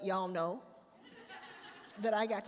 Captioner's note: attendees laugh